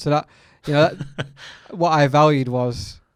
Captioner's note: laughs